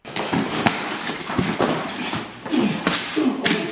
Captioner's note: grunting